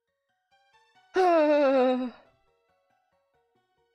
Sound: defeated sigh

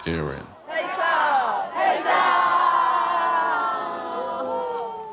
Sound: crowd chanting

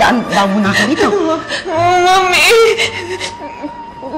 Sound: stuttering

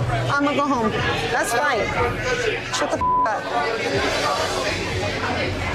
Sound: beep

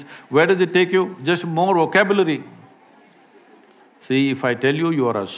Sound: few laugh

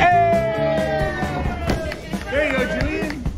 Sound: cheering

